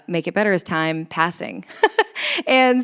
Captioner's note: laughs